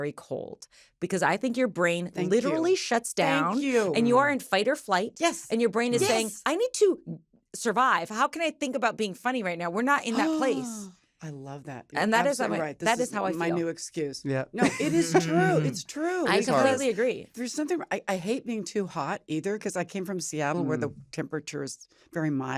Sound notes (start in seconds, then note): 10.1 gasps; 14.6 laughs